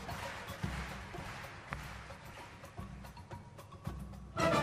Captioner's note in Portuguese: Aplausos; 掌聲